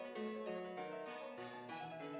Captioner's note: none